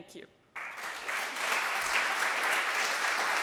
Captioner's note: applauding